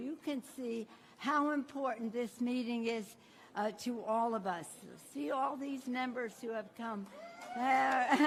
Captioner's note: applause